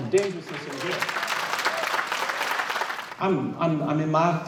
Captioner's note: clapping